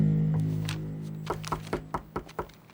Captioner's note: knocking on door